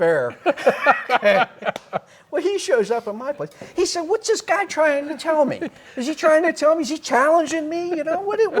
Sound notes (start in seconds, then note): 0.3 both laugh